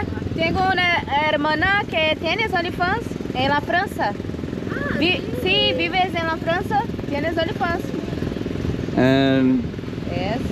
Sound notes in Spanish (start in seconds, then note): 3.1 Hablando portugués